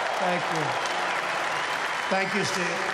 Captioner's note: applause